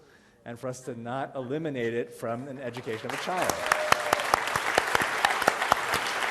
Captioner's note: applause